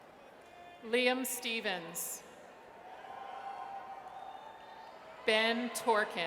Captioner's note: audience cheers